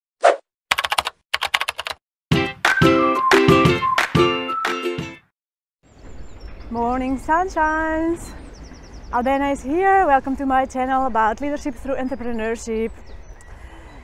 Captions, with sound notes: (keyboard tapping) (upbeat music) - Morning, sunshines, Albena is here. Welcome to my channel about Leadership Through Entrepreneurship.